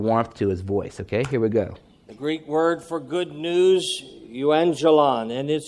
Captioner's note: male voice speaking